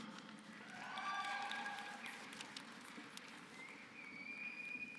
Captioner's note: applause